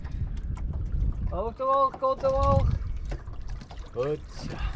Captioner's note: speaking Dutch